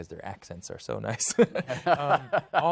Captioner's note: chuckles